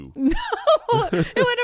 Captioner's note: laughs